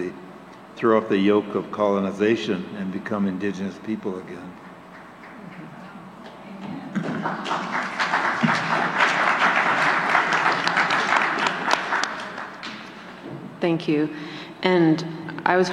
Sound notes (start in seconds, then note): 8.8 applause